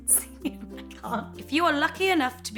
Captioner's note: laughing